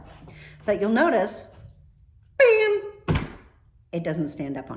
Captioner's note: heavy thud